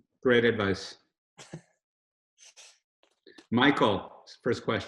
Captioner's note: Robert chuckles